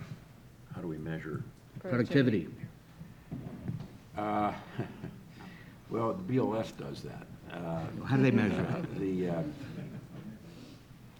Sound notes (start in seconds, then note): 4.2 chuckles